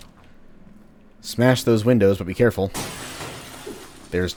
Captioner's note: SMASH, Matangos alerted